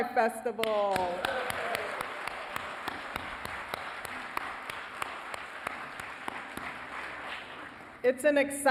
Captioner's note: applause